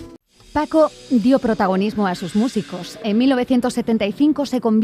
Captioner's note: speaking in Spanish